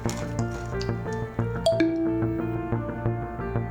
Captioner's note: notification sound